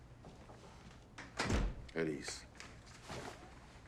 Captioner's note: door closes